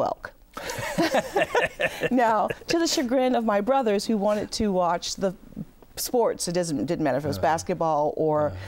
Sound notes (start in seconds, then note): 0.6 laughing